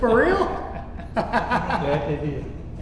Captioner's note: laughing